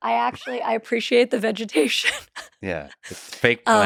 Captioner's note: laughs